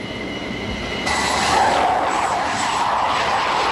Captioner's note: plane noise